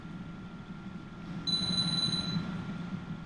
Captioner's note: phone rings